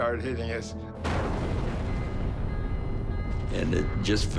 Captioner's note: explosion